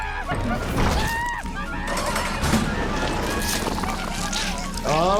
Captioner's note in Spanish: Snuggles gritando